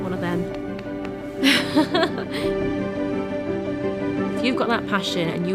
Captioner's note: laughs